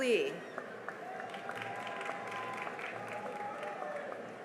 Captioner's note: cheering and applause